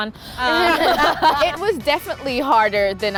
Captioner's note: laughter